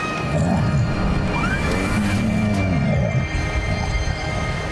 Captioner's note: groaning